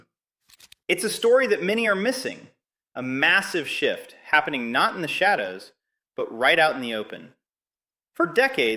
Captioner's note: excited